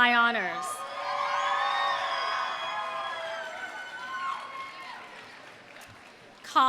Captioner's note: audience cheering; audience applauding